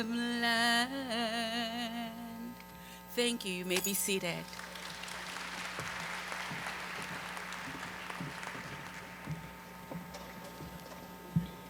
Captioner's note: applause